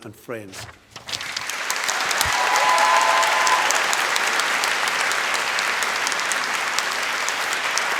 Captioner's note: applause